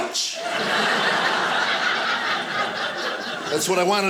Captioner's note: audience laughing